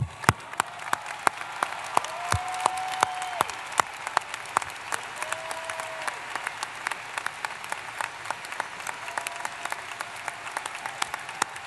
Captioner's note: applause